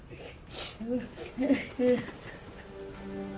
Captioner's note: Pacita crying